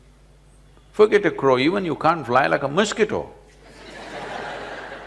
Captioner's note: laughter